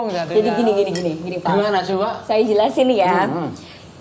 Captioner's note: laugh